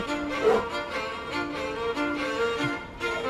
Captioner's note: panting